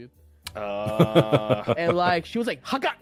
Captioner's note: giggling